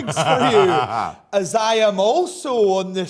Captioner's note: laughs